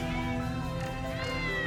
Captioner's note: cats meow